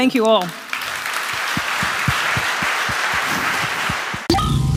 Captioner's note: applause